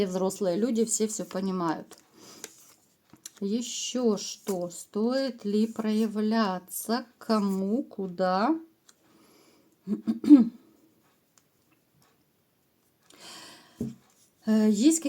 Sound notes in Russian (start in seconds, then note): 9.9 откашливается